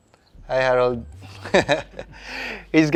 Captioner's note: chuckles